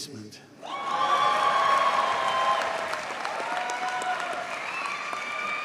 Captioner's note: audience cheers and applauds